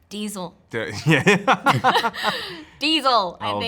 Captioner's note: laughs